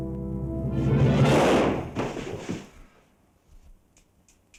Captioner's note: gun fires